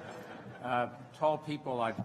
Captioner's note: laughter